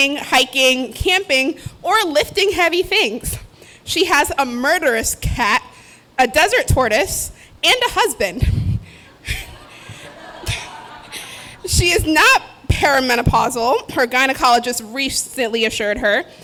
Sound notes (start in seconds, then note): 9.1 laughter